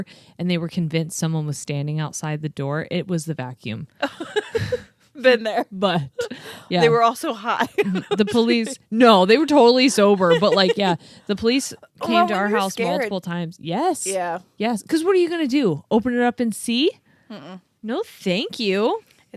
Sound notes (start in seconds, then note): 4.0 laughs